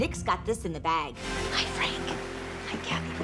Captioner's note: whispering